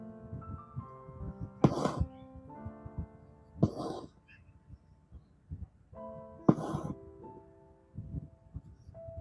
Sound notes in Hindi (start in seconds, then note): 1.6 नाक से की जाने वाली आवाज़